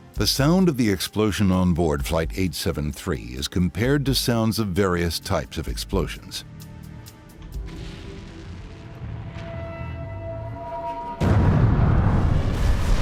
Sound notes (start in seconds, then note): 7.6 humming; 11.2 engine exploding